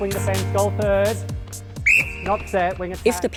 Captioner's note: whistle